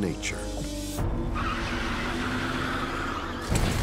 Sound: tires screeching

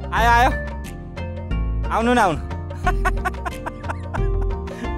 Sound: laughter

